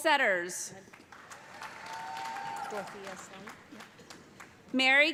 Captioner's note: cheers and applause